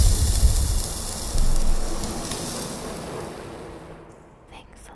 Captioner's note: crackling sound; whispering